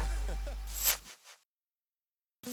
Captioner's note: laughs